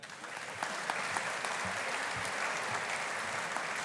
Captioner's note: audience applauding